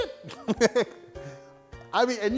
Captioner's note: laughs